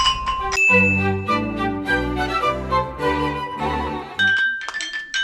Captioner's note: K'lang